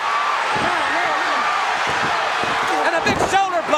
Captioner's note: audience cheering